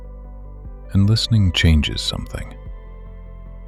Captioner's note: hushed